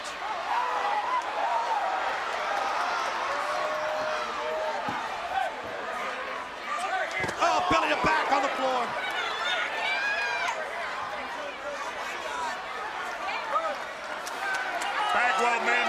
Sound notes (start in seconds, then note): 0.8 crowd chatter; 10.5 crowd cheering